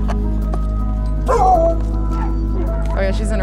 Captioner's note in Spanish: Ladridos